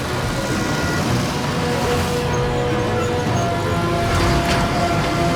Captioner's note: construction machines rumbling